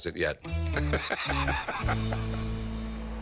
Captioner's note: laughs